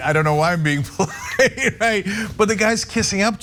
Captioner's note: laugh